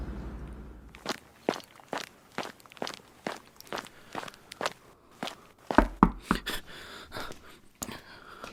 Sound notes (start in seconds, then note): 0.9 footsteps approaching; 5.8 knocks